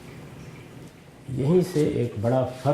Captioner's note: speaking urdu